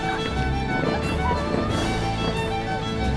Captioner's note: laughing